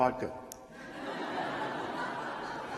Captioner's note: laughter